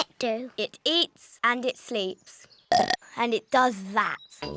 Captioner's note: burps